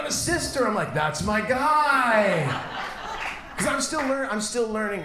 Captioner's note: audience laughs